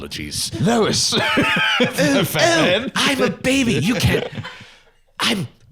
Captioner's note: laughs